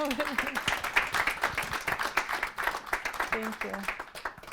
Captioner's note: audience applauding